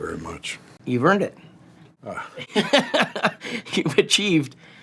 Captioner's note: laughs